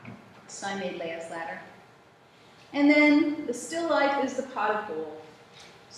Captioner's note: none